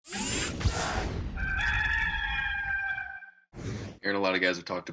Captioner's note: rooster crowing